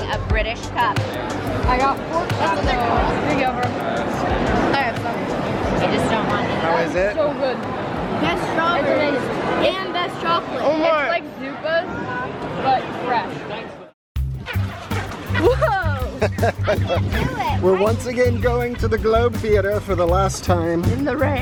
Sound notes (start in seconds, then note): 14.8 playful music; 16.0 laughs